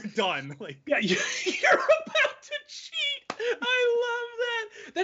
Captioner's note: laughing loudly